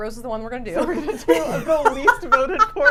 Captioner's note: laughs